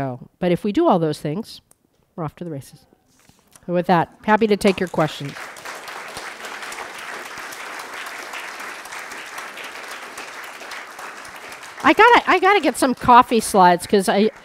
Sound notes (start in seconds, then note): 6.4 applause